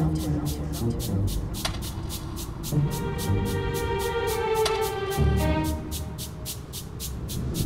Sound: clock ticking

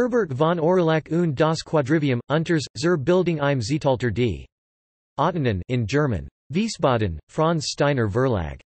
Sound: in German

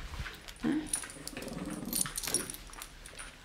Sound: dog growls

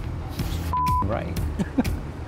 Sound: beep

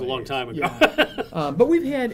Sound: laughing

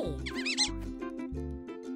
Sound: happy squeak

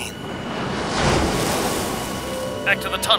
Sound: splashing

